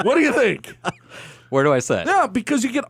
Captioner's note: laughs